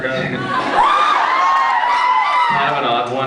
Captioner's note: laughs; cheers